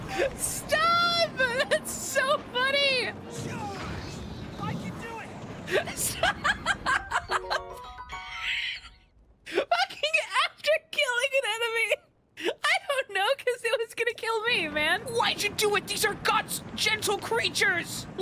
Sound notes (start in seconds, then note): 5.6 laughing; 8.0 wheeze; 9.5 laughing